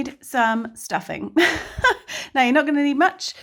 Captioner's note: chuckles